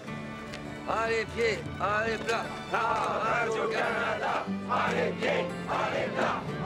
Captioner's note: Rene and crowd chant in French